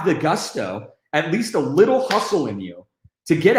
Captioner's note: fists slapping